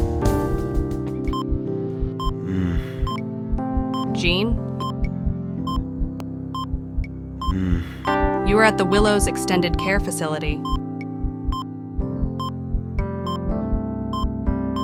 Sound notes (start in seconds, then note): 0.3 moaning; 0.3 soothing Music; 7.4 moaning